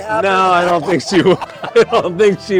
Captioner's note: both laughing